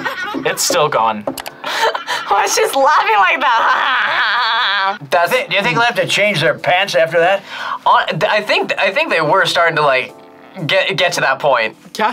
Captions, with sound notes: It's still going. - (laughs) The way she's laughing like that. (imitates laugh) - Do you think they'll have to change their pants after that? - I think they were starting to like get to that point.